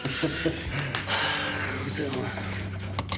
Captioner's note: Harvey chuckling; Joe sighing; Joe mumbling